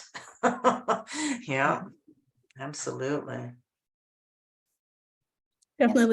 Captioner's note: chuckles